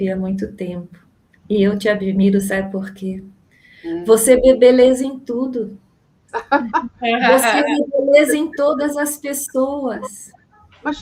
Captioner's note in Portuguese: risadas